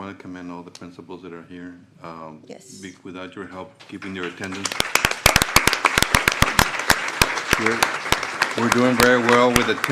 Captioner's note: applause